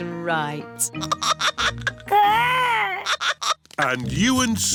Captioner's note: giggling